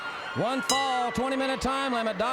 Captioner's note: bell ringing